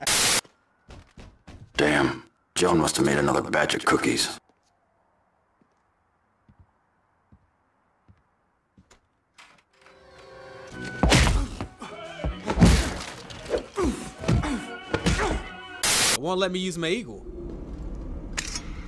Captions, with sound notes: (static) - Damn, Joan must have made another batch of cookies. (door creaks open) (grunting and punching) (static) - It won't let me use my eagle.